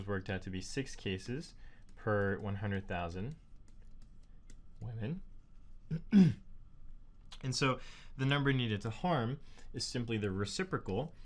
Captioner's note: cough